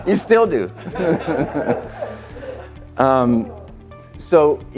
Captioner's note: audience laughing